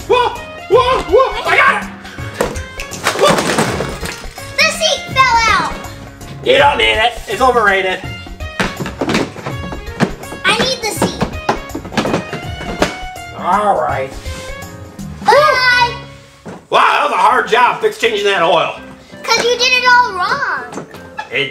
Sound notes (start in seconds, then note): 2.4 car crashes